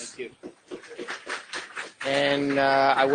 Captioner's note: clapping